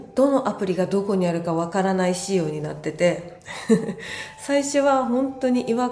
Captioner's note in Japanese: 笑い